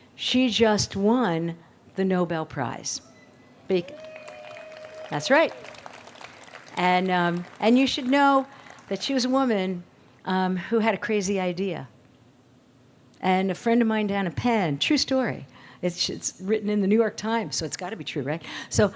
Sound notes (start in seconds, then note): 3.8 audience cheers